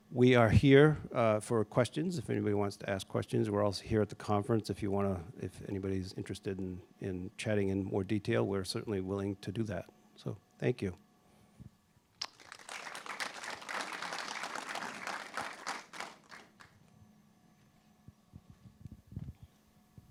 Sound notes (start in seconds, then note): 12.2 applause